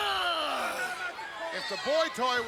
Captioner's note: Diesel yells